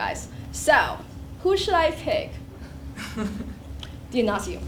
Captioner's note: laugh